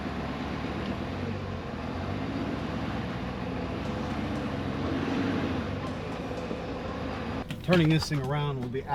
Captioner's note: engine revving